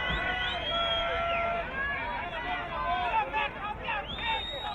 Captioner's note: crowd cheering